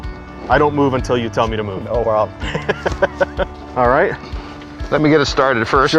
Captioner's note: laughing